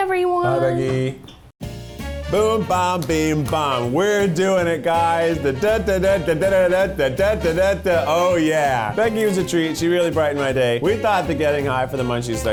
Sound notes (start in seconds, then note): 1.8 upbeat music; 4.6 humming